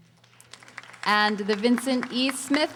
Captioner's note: audience applauding